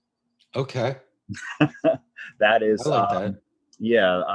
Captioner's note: chuckles